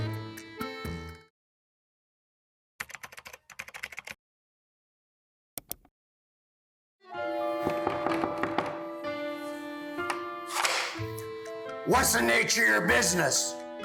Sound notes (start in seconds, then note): 2.8 keyboard clicking; 7.0 gentle music; 7.7 guest knocking